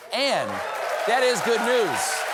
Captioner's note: applause